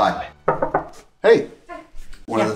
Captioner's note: knocking